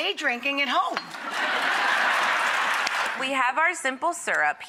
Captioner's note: applause